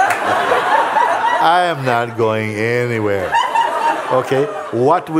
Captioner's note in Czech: smích